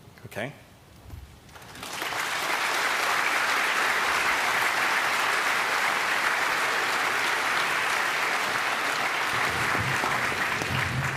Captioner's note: applause